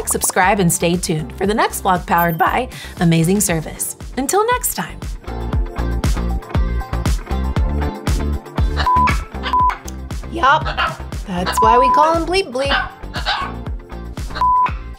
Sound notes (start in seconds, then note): 5.2 upbeat music; 8.9 bleep Bleep beeps